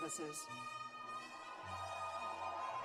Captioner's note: cheers and applause